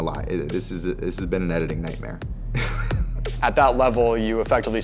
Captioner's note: laughs